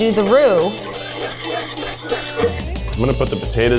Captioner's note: whisk scraping pan